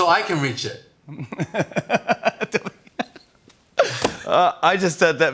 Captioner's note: laughs